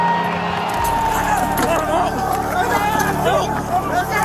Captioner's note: crowd cheering; crowd shouting